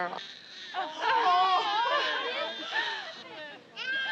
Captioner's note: baby crying